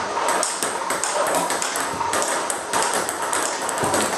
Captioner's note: ball ping pong hitting